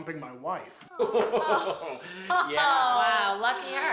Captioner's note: exclamations